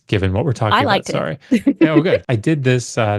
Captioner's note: laughs